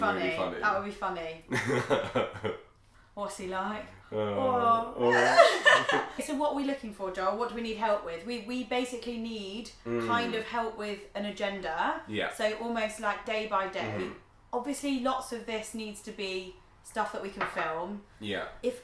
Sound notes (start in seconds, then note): 1.5 laughs; 5.0 both laugh